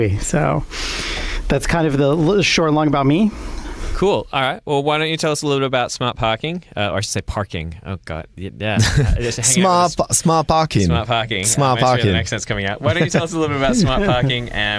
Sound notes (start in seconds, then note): 7.1 american accent; 8.8 laughs